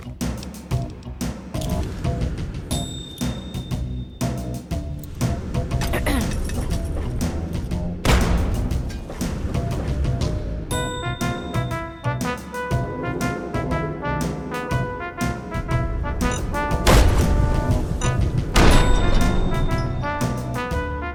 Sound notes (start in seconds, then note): 12.6 blowing a raspberry